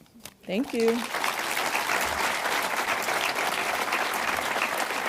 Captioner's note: audience applauds